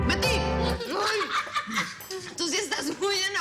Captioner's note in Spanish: Risas